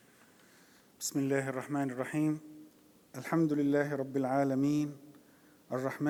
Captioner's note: praying in Arabic